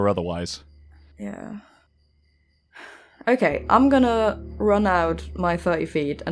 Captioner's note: sighs